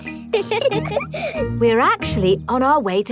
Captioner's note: both giggle